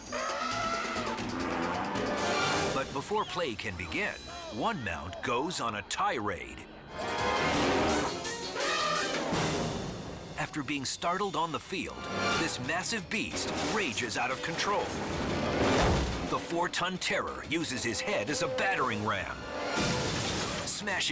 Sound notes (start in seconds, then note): 0.0 elephant trumpets; 6.9 dramatic music intensifies; 7.5 elephant trumpets; 14.8 elephant smashes; 19.7 glass smashes